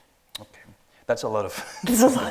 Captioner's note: both laughing